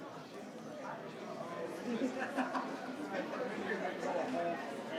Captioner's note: participants chatter